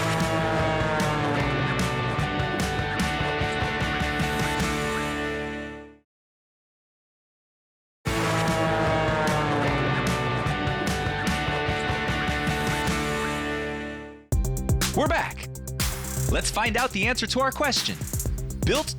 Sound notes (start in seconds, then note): 0.0 energetic rock music; 0.0 plane engine roars; 8.1 energetic rock music; 8.2 plane engine roars